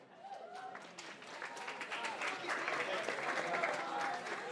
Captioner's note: applause